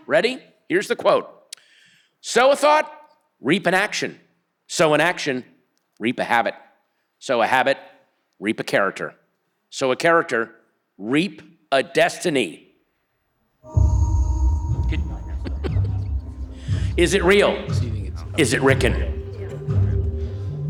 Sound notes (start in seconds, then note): 13.6 intense music; 14.8 people chattering